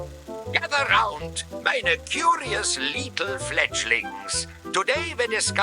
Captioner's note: cartoony music; cartoony German accent